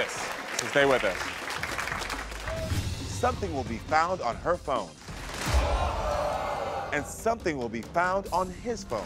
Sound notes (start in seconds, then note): 2.2 tense music; 5.5 audience groans